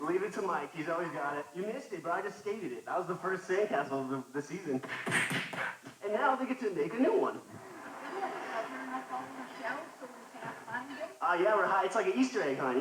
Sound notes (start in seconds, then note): 5.0 feet smacking